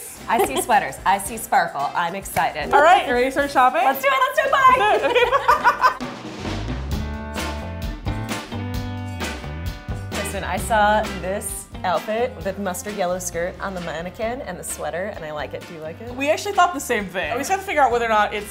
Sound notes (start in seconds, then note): 4.5 laughing; 6.5 upbeat music